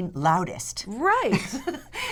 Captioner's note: laughter